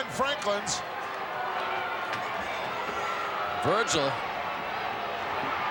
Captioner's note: applause